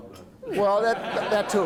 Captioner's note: laughter